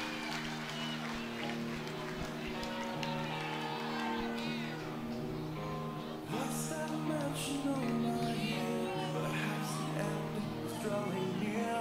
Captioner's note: crowd cheering